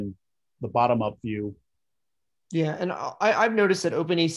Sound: calm Voice

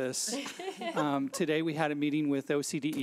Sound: laughs

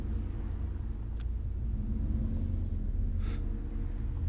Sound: gun clicks

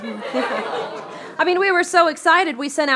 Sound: crowd ahs

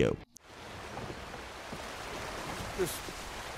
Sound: water rushing

